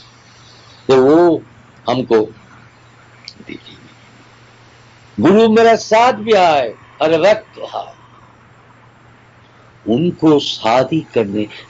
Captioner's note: speaks Hindi